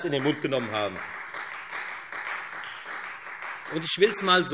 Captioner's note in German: Beifall Freie Demokraten